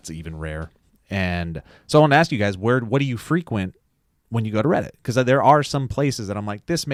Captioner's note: none